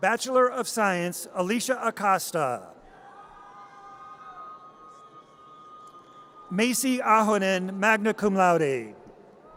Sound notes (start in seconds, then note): 3.0 audience cheers